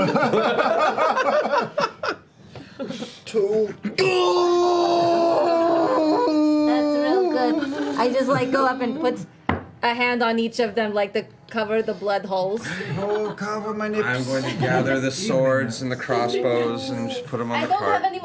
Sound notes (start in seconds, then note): 0.0 laughter; 3.9 groans in pain